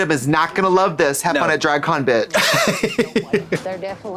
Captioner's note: snickers